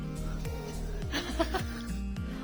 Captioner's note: laughs